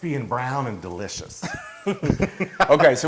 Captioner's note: laugh